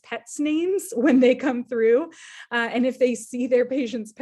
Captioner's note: chuckling